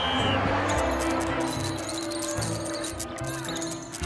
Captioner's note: electrical buzzing